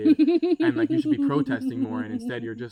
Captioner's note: laughs maniacally